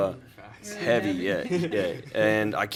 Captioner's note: light laughter